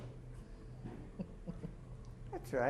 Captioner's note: chuckles